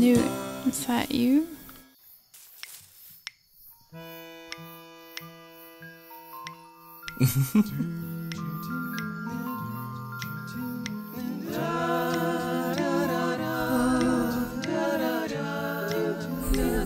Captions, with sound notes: - Hmm, Newt, is that you? (humming) (relaxing music)